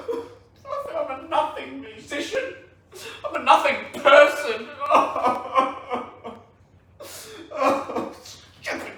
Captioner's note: wails